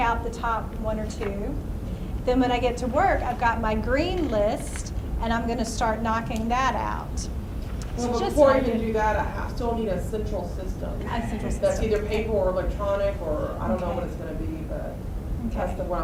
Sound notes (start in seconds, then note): 8.5 voiceover; 12.3 voiceover